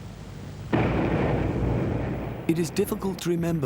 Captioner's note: explosions booming